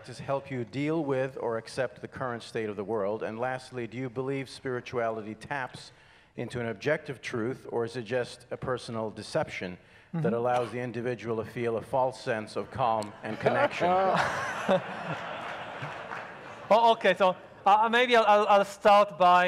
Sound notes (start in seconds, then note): 12.6 speakers and audience laughing